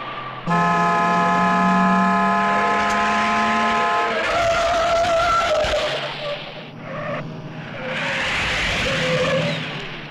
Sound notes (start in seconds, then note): 0.4 horn honking; 4.5 tires squealing